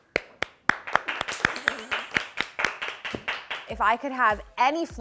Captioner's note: crew claps fast; laughing